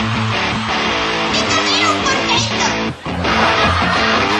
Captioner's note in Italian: risate